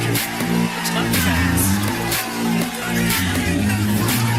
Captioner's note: applause